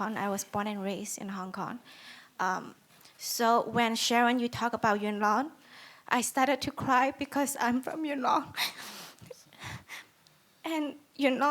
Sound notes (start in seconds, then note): 8.6 sniffles